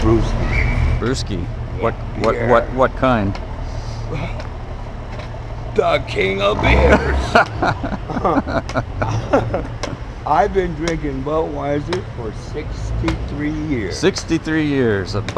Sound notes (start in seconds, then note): 4.1 exclaiming indignantly; 6.5 both laughing